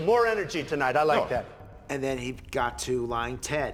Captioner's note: audience applauding